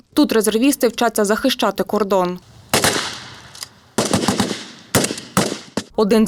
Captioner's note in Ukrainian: стрілянина